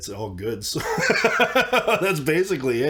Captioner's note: laughs